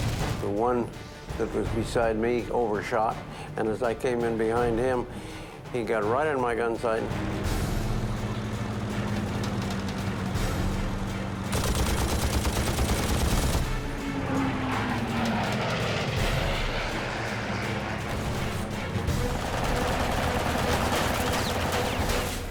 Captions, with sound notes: The one that was beside me overshot, and as I came in behind him, he got right in my gun sight. [gunfire] [gunfire]